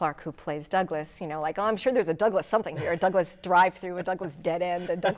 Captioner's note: laughing